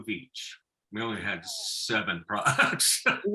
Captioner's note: laughing